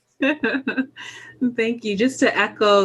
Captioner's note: laughs